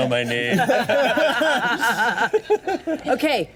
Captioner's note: all laughing